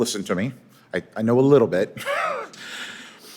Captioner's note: laughs